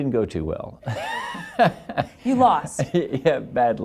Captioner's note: laughs